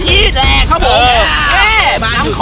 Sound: cheering

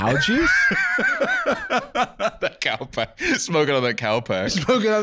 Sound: laughing

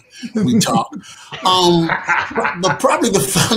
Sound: all laughing

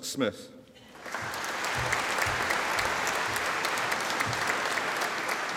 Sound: audience applauding

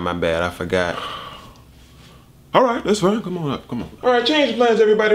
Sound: sigh

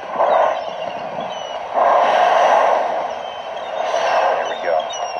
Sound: humpbacks blowing

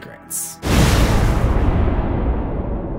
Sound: impact

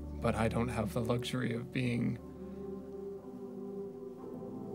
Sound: none

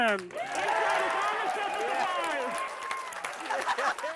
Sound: cheering and applause

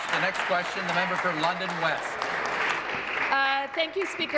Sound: applause

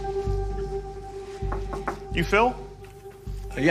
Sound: knocks on door

